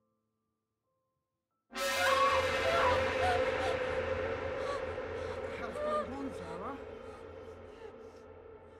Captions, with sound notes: (ominous music) (Zara screaming) - What the hell's going on Zara?